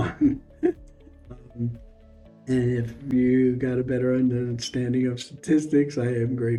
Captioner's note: laughs